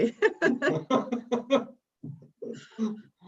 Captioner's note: laughs